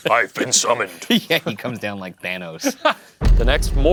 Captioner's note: laughing